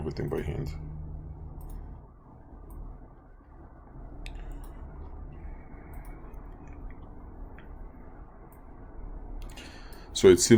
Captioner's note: clicking Sounds